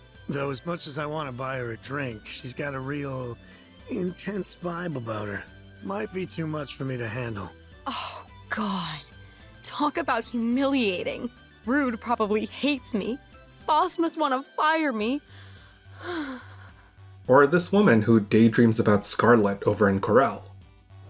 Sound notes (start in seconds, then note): 15.4 sigh